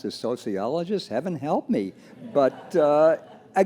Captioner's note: audience laughs